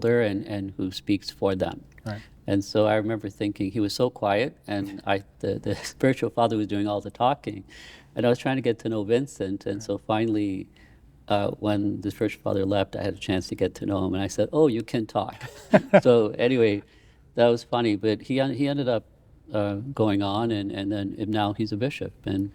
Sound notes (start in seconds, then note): 15.4 laughing